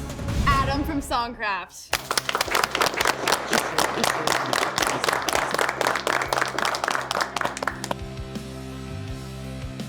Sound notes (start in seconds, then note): 1.9 all applauding